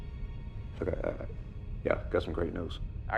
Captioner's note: stutters